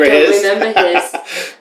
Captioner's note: laughter